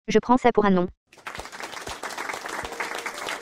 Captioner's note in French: clap clap clap